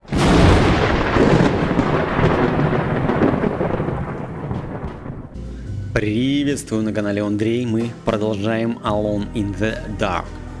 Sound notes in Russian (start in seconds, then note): 0.0 Звук взрыва